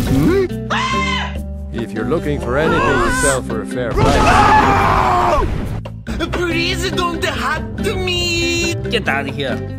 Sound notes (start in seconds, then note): 0.7 scream of pure terror; 6.0 totally accurate East Asian accent